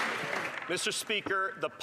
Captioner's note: some Applause